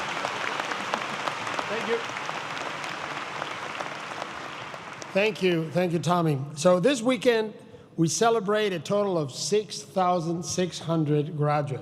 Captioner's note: applause